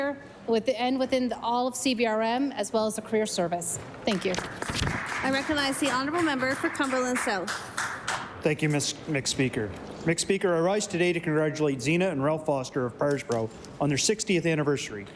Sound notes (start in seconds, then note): 8.1 applause